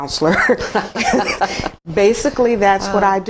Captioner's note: laughs